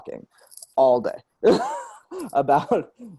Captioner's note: laughs